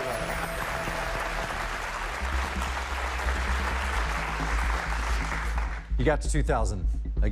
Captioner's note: cheers and applause